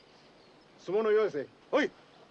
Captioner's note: speaking japanese